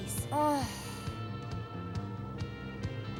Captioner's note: groans